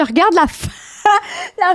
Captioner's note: in french; laughing; in french